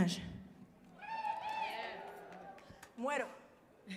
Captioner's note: audience cheering and applauding